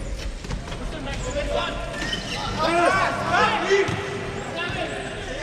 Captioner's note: players shouting indistinctly